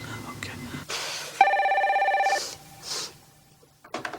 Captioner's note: phone ringing